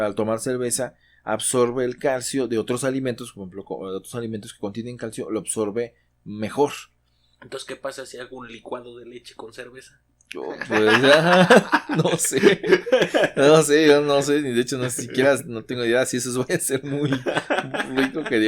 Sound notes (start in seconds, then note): 10.6 laughs